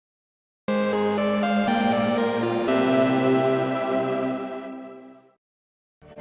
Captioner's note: fluttering, musical sound effect